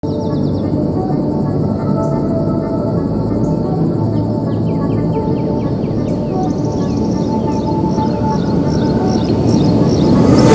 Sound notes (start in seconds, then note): 0.0 soft music; 5.2 birds tweeting